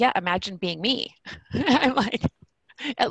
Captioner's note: laughs